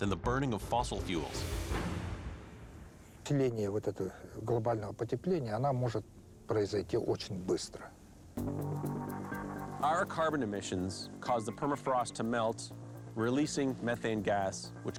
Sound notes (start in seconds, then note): 2.5 speaking Russian